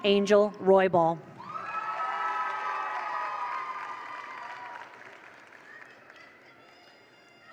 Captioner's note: attendees cheer; attendees applaud